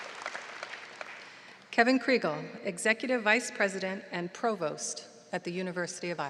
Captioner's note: applause